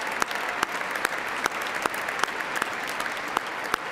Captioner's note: applause